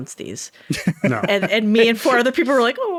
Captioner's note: laughing